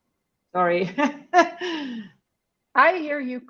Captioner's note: chuckles